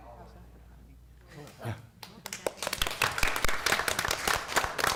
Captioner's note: applause